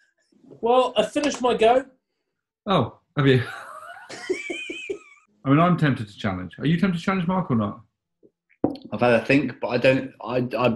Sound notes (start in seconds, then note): 3.4 chuckling